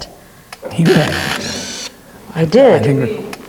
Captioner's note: camera gears turning